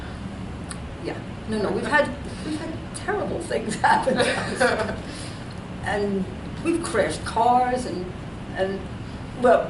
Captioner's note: laughs